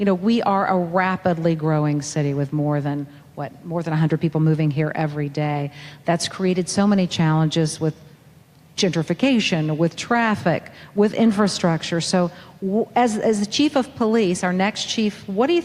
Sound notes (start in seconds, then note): none